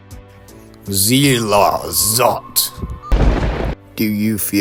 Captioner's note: lightning strikes